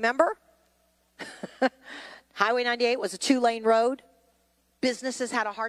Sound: chuckles

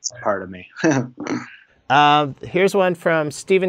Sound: laughs

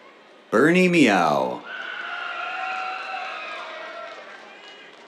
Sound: cheers

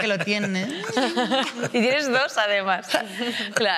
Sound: she laughs

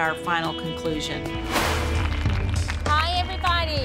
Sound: whoosh; applause

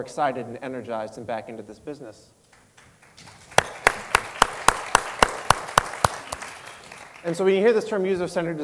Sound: applause

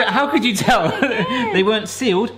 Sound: laughing

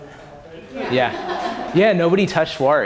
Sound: laughter

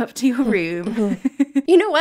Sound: laughing

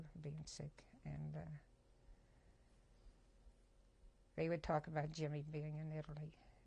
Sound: pauses for 3 seconds

